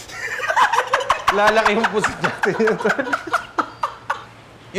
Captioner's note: laughter